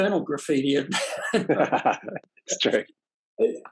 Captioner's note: both laugh